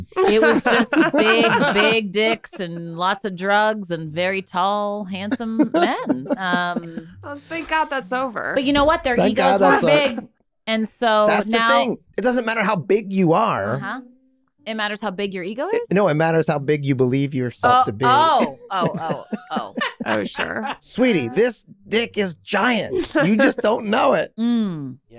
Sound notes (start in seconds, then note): 17.7 group chuckling